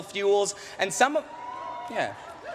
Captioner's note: cheering